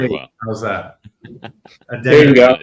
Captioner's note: laughs